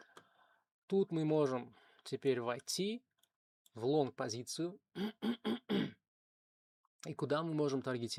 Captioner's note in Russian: кашель